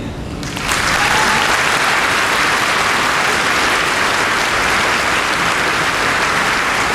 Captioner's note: applause